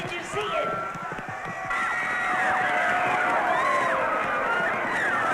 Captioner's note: screaming